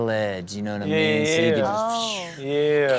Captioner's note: makes swooshing noise